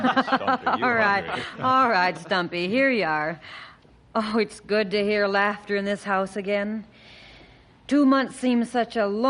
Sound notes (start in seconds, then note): 0.0 laughter